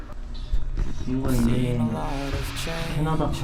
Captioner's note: whisper